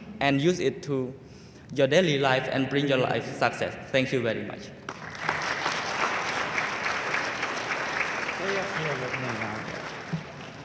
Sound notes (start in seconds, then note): 4.8 audience applauding enthusiastically